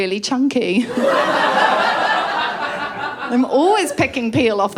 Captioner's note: laughter